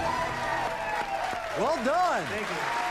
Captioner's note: cheers and applause